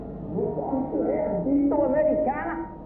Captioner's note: Fritz speaking in foreign language